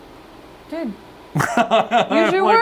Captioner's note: nervous laughter